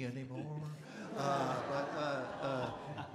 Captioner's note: audience Laughing